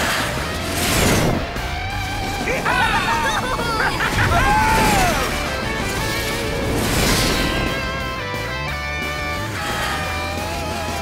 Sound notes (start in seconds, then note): 2.5 cheering